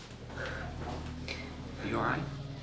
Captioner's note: exhaling